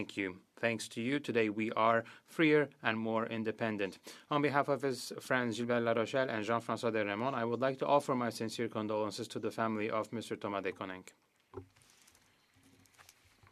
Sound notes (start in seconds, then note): 9.3 speaking French